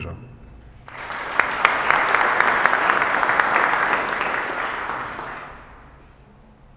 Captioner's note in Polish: oklaski